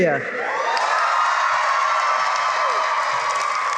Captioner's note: cheering and applause